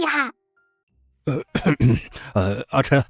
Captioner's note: coughs